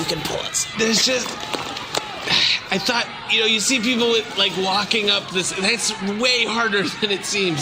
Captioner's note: straining